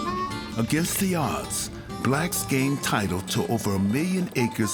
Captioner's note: voiceover